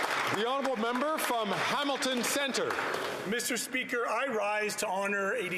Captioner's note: some Applause